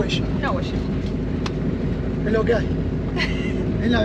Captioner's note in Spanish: risas